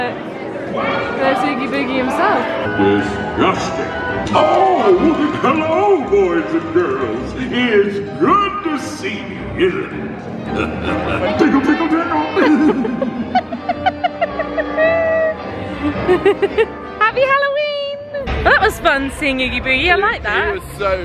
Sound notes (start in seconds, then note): 10.4 laughing; 13.9 upbeat music